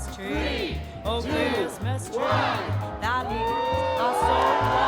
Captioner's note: crowd; cheers